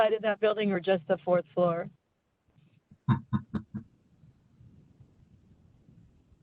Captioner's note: chuckling